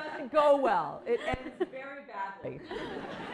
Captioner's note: laughter